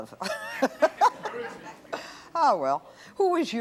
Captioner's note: laughing